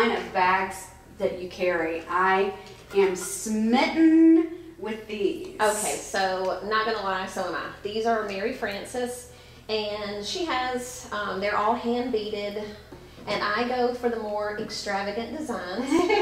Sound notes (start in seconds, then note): 15.8 laughs